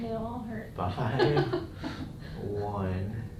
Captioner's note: patient laughs